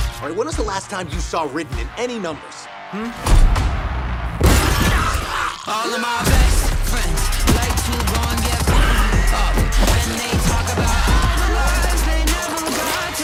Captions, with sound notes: All right, when was the last time you saw Ridden in any numbers? [CREATURE ROARS] [ROCK MUSIC PLAYING]